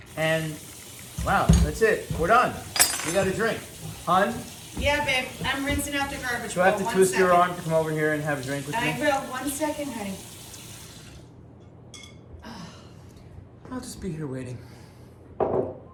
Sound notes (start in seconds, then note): 2.7 spoons falls; 11.1 water running; 12.0 plates clanking; 12.4 sighs